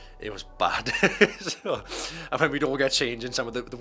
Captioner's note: laughs